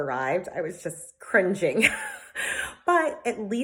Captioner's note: laughs